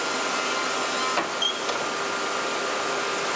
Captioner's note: squeaking